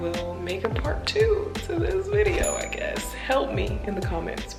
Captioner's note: bell dings